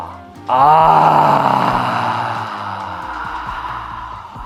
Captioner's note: exhales sharply